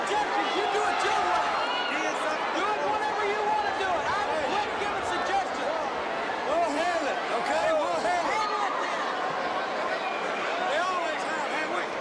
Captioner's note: crowd chatter